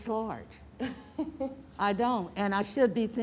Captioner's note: laughing